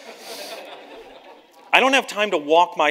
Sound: audience laughs

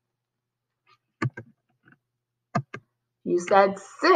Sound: clicking

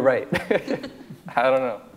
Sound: laughs

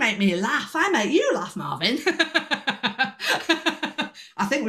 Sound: laughter

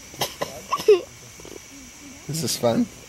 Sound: giggling

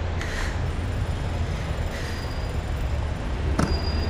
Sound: drill sound

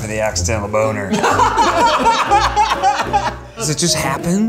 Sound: everyone laughing

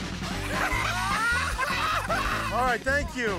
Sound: laughter

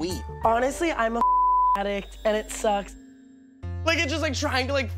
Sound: beep

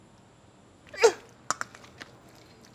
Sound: moans

